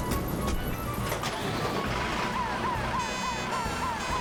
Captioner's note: heroic Music; engines Revving; sirens Blaring